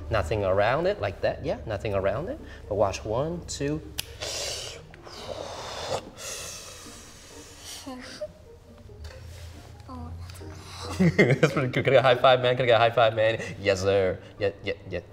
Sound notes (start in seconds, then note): 3.9 snaps fingers; 4.1 slurps; 10.9 chuckles